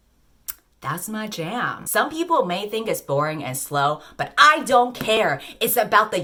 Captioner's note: tongue click